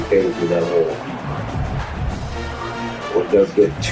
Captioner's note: crowd Noises